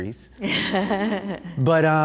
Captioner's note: laughs